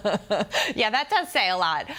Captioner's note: laughter